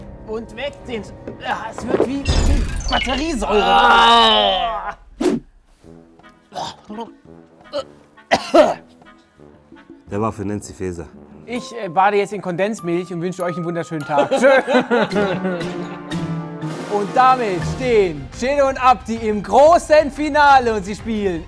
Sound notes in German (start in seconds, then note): 4.4 Ekelgeräusche; 8.9 Heitere Musik